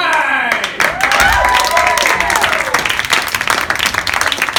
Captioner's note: applause